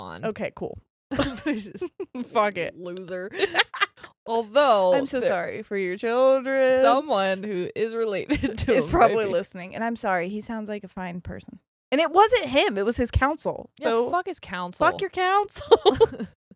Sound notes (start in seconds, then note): 3.1 laughing; 3.3 laughs; 15.6 both laughing